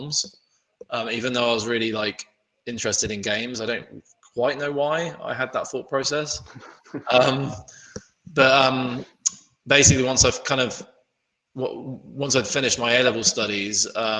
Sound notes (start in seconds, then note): 6.9 laughing